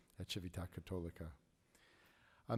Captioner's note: speaking in foreign language